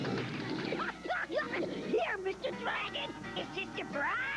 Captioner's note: laughs